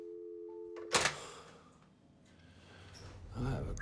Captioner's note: busy tone drones; phone clacks